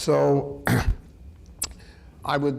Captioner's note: clears throat